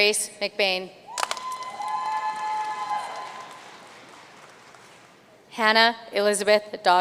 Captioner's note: audience cheering and applauding